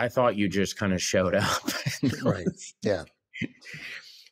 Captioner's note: laughs